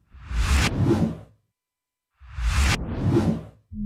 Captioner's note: whooshing sound